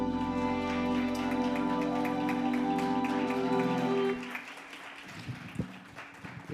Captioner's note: audience applauds and cheers